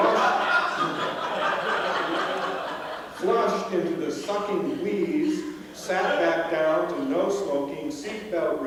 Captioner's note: laughter